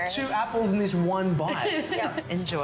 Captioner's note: laughs